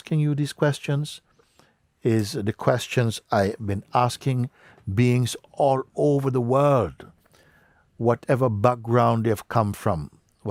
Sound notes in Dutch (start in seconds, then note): none